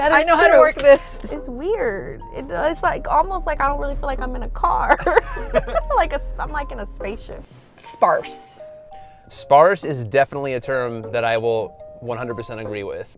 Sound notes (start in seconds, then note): 4.8 laughing